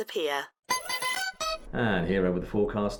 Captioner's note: bell chimes